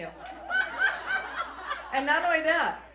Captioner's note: audience laughs